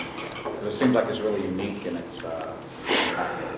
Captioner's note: murmurs